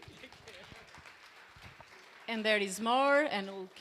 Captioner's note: applause